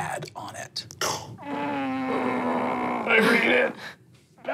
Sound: groans

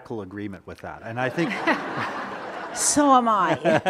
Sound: audience laughing

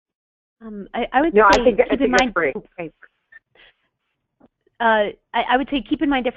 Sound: voiceover

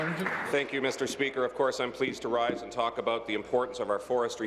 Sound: applause

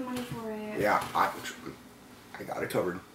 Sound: stammers

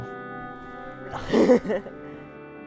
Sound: chuckles

